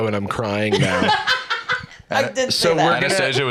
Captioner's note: laughs